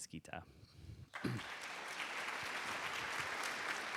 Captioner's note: applause